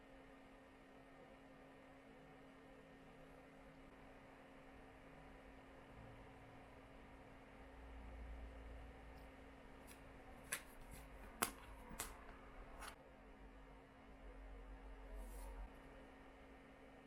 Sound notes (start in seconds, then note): 11.8 makeup tools click